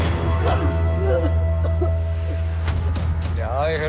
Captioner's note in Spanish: Golpes